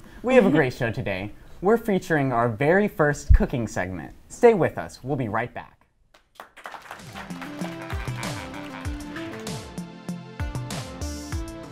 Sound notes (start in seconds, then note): 6.3 audience applause; 8.8 soothing music